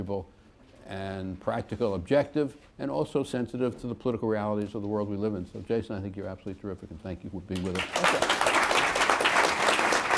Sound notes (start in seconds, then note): 7.5 applause